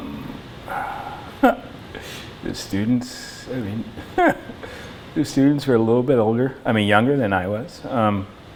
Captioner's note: laughter; laughs